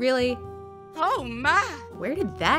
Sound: heavy Southern accent

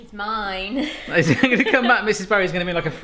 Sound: laughing

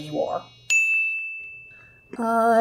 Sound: ding sound

